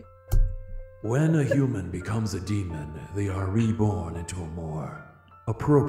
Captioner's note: game audio